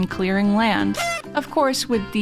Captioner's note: party horn sound effect